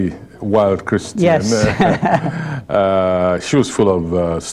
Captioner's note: laughter